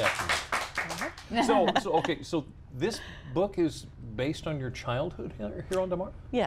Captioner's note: applause